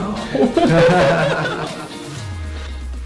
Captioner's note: both laughing; upbeat music